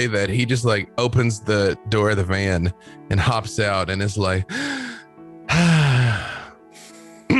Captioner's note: deep breath